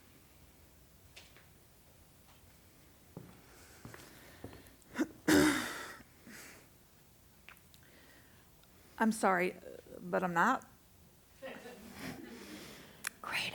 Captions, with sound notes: [clears throat] I'm sorry, but I'm not.